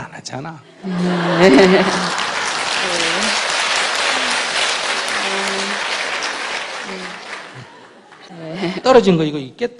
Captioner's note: audience Laughter/Applause